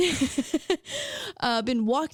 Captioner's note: laughing